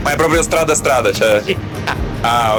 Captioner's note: speaking Italian